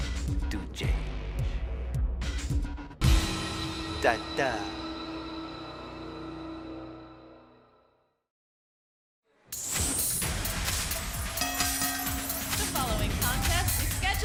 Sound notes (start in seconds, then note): 11.3 bell ringing